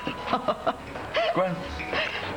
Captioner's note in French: Rire